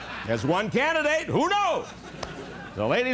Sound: laughter

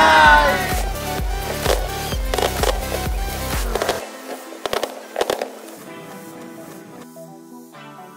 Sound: fireworks booming

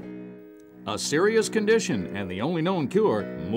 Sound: voiceover

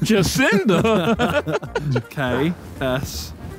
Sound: all laughing

